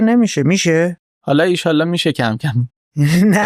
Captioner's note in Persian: خنده